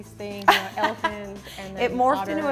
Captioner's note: laughs